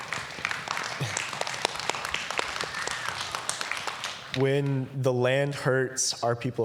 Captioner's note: applause